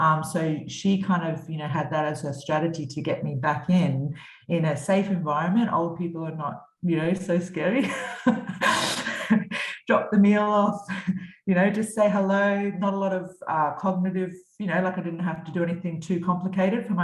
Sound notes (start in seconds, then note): 7.8 chuckles